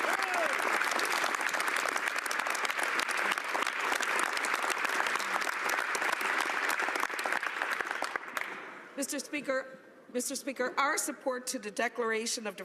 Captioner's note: applause